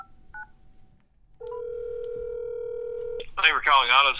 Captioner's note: phone ringing